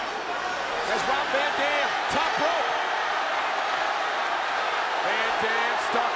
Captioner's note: crowd cheering